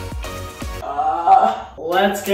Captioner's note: groans